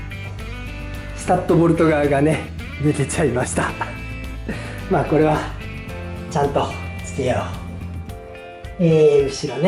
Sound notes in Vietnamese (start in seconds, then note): 7.3 cười